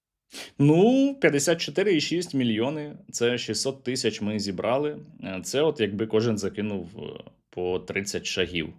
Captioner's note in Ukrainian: сопіння